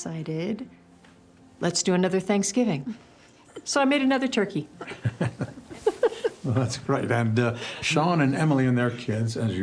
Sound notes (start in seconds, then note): 4.8 Grace laughs; 4.9 Christopher laughs